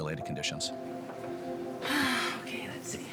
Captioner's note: sighing